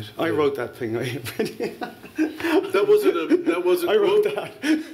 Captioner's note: laughter